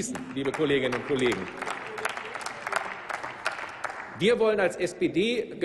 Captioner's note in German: Applaus